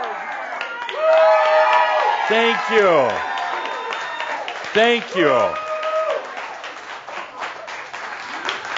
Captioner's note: audience cheering and applause